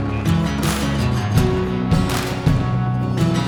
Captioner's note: applaue